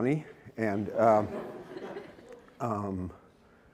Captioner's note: laughter